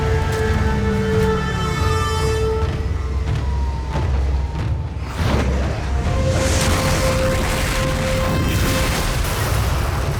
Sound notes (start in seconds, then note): 0.7 powering down